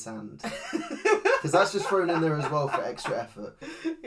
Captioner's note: laughs